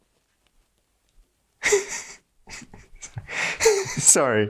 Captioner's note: Max laughs